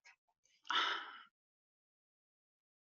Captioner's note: sighing